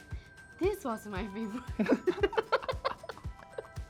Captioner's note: intense giggles